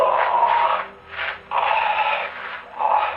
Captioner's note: groaning